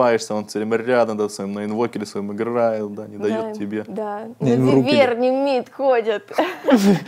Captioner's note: laughs